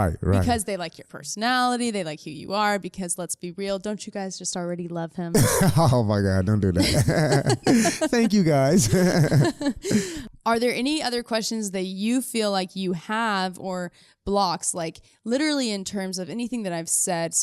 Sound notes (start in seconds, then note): 5.3 both laughing; 5.3 laughs